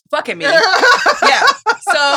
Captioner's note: laughs